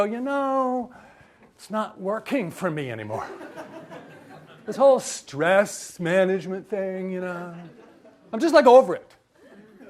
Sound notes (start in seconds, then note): 3.2 audience laughs